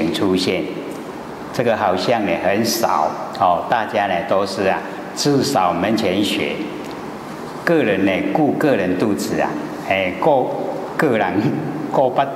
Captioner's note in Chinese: 台語